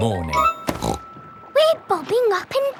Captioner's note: snorts